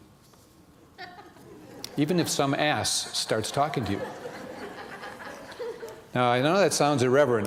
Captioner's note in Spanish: risas